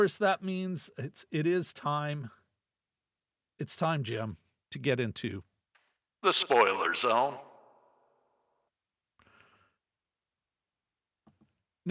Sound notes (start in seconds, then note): none